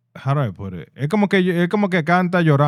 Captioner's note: speaking In Foreign Language